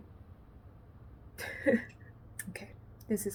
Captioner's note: rueful laugh